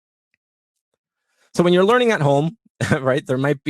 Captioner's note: laugh